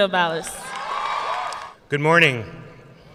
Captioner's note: audience cheering and applauding